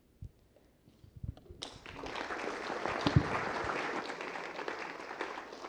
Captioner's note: applause